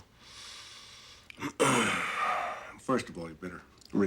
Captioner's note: exhales